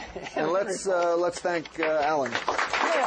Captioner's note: applause